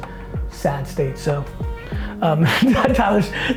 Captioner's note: chuckles